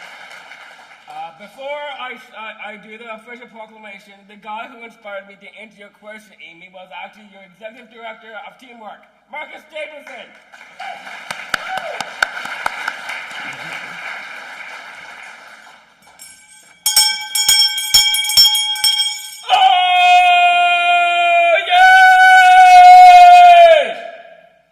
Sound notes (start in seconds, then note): 13.5 applause; 16.0 bell Ringing